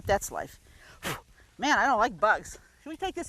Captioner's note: blowing